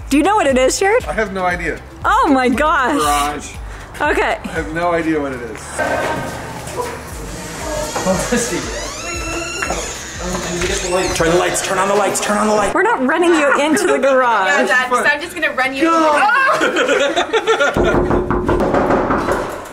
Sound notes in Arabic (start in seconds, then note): 8.5 صرير الباب; 16.2 الجميع يضحكون